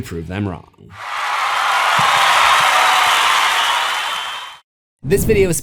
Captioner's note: crowd cheering